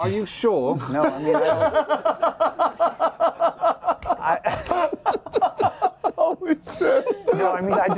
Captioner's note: laughter